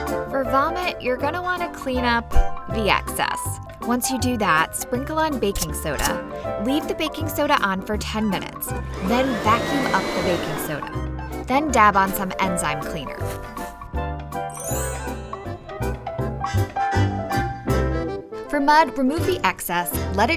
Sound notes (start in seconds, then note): 14.5 tinkling